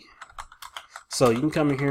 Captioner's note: keys clicking